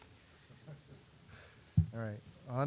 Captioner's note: chuckling